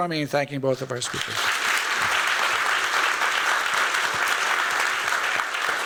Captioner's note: applause